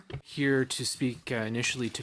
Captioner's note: speaking in French